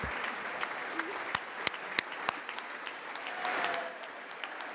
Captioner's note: congress applauding